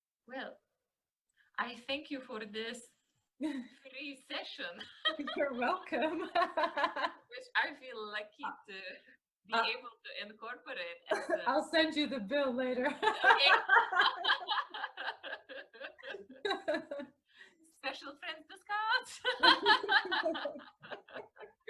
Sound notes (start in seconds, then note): 13.0 laughing